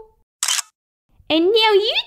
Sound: click!

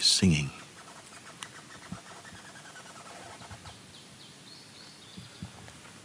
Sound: sounds of the trees

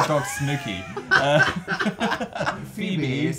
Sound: laugh

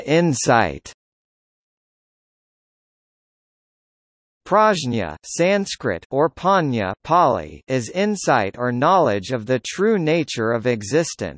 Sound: Pāli

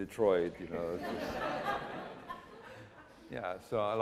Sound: laughter

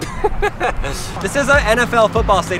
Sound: laughs

